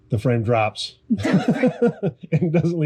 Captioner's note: laughing